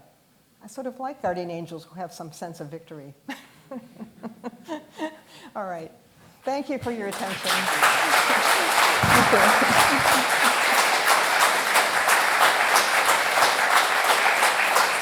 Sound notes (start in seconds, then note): 7.6 applause